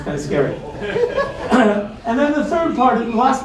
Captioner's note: laughter